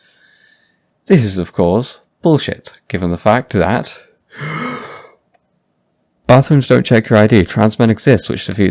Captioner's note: inhale